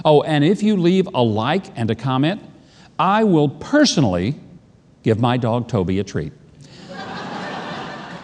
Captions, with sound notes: Oh, and if you leave a like and a comment, I will personally give my dog, Toby a treat. (audience laughing)